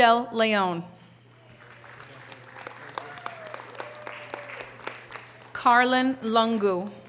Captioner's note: audience cheering and applause